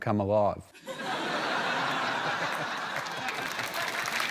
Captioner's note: laughter; applause